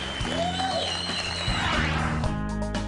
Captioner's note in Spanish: aplausos